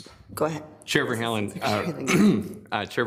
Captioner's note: coughs